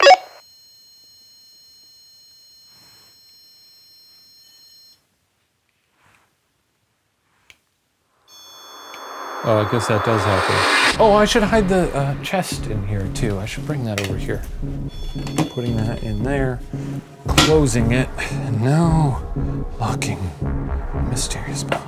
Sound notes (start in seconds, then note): 0.0 REM-Pod beeping; 5.2 REM-Pod stops; 8.3 REM-Pod beeping